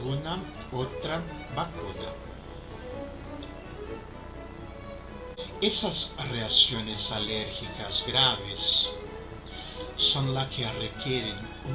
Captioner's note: breathing difficulty